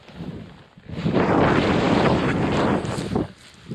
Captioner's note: windy